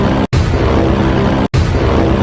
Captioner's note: horn; horn X2